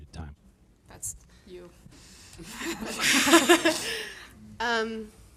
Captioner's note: audience laughing